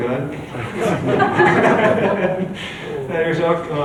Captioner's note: chuckles